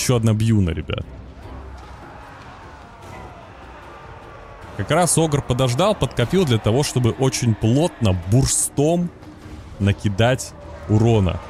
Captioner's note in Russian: крик